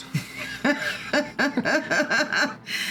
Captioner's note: laughing